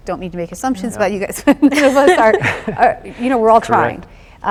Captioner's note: chuckles